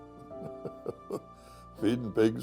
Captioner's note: chuckles